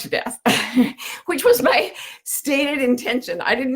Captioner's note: laughs